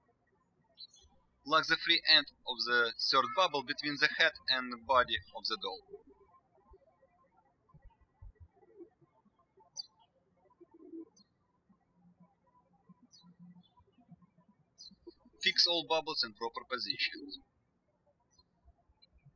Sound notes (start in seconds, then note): 6.9 birds chirping; 18.2 birds chirping